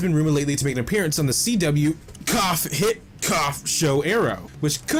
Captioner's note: cough